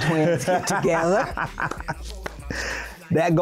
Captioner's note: laughing